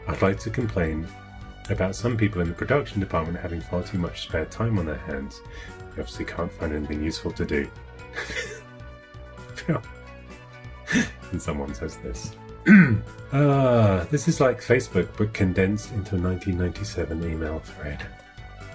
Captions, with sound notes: "I'd like to complain about some people "in the product department having far too much "spare time on their hands. "They, obviously, can find anything useful to do." (laughing) And someone says this. (clearing throat) This is like Facebook but condensed into a 1997 email thread.